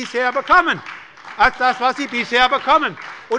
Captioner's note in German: Beifall bei der SPD